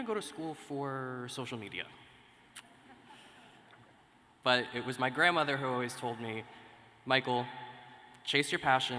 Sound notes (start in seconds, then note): 2.8 laughter